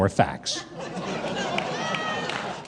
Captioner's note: audience chuckles